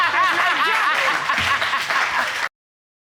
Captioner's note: all laughing and clapping